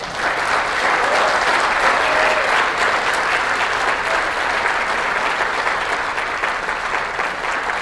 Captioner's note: applause